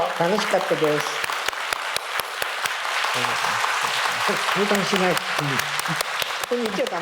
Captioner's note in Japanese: 拍手